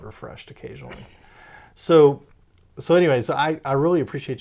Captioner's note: laughs